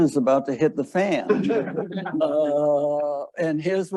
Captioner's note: audience laughing